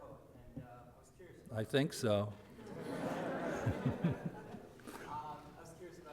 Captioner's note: audience laughter